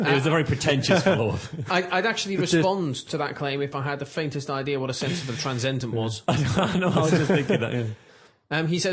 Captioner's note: laughter